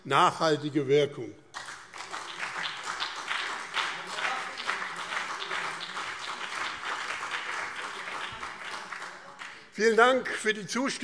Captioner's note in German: Beifall BÜNDNIS 90/DIE GRÜNEN und CDU